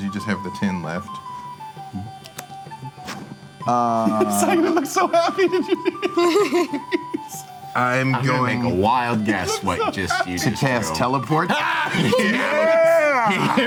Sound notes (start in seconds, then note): 2.5 flute music; 6.1 giggling